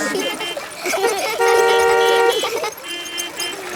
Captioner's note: laughter; beeping